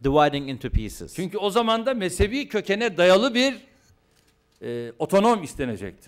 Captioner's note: non-english speech